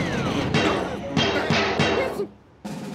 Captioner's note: whimpers